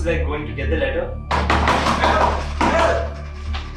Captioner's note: someone bangs door frantically